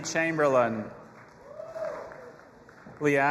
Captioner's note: audience applauding and cheering